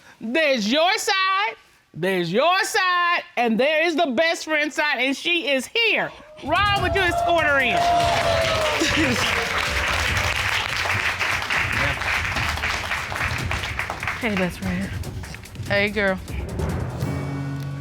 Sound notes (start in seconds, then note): 8.2 cheers and applause; 8.7 chuckles